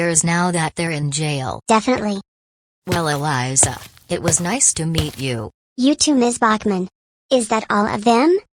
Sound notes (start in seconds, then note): 2.8 footsteps